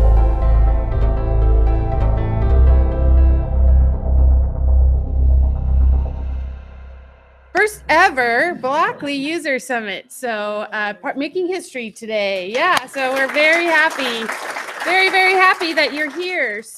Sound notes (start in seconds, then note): 14.0 applause